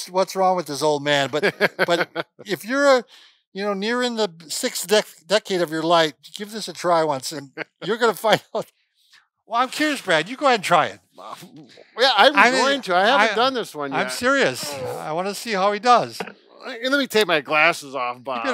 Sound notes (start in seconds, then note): 9.0 laughing